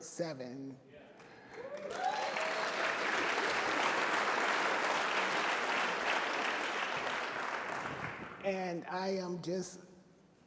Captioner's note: applause and Cheers